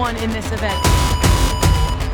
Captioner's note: starting tone beeps